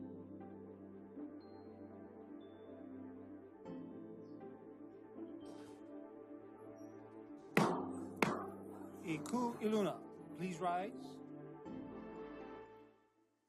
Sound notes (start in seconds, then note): 7.6 gavel bangs twice